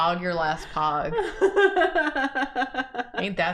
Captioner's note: laughs